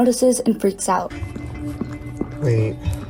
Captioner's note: sound Of Dog Licking